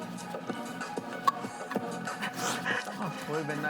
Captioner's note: energetic music; cans clanking; laughs